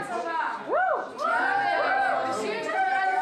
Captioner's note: speaking foreign language; all cheering; speaking foreign language